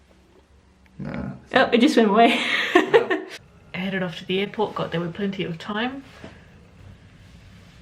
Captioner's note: laughs